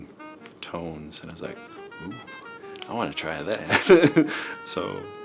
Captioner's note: chuckles